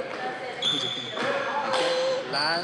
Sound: sobs

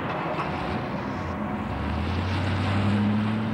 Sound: car rumbling

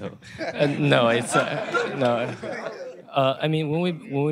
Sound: laughter

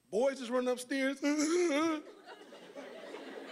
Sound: fake sobbing; audience laughing

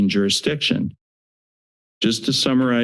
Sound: silence

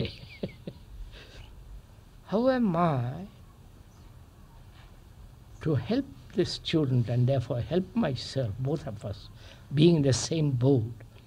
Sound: laughs

